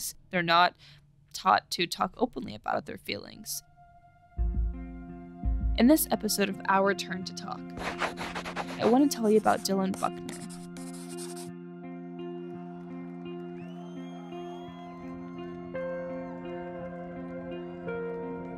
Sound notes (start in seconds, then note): 10.5 pencil scratching; 14.2 crowd cheering and whistling